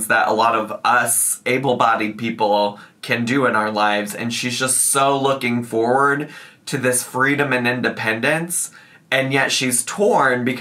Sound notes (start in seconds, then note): none